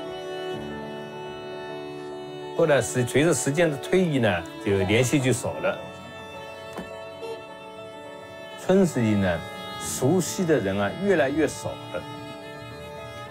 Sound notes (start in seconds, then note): 2.5 speaks in Chinese language; 7.3 car horn beeps; 8.7 speaks in Chinese language